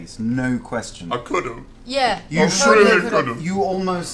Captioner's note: choked up